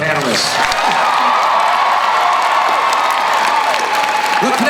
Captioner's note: crowd cheering